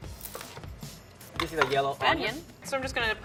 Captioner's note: cutting onion